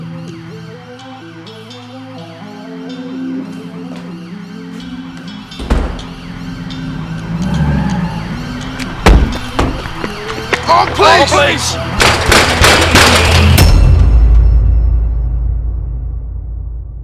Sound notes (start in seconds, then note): 0.1 sirens wailing; 4.7 door clicking; 7.3 engine roaring; 7.3 tires screeching; 8.8 car door slamming; 12.0 fist pounding on gate; 13.9 dramatic noise